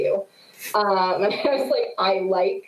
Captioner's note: laughs